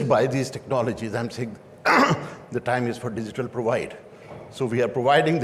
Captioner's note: clears throat